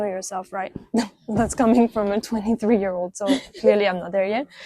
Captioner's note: laughs